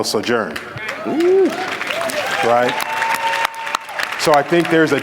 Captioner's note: applause